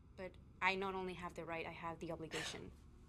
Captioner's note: Louisa scoffs